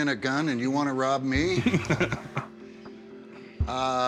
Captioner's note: laughs